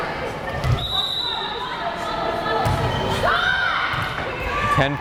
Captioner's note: whistle blares